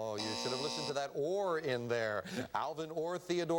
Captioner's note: buzzer